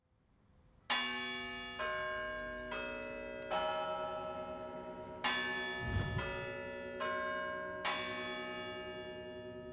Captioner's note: bell Ringing